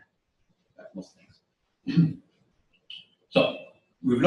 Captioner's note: pause